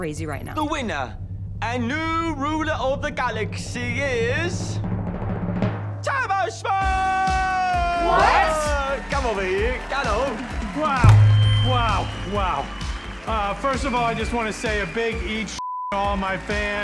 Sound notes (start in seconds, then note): 5.3 audience cheers, applauds